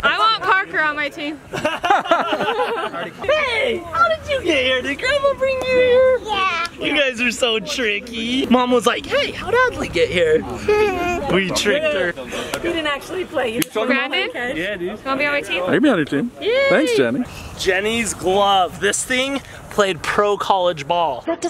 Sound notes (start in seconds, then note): 1.4 all laughing; 10.5 giggles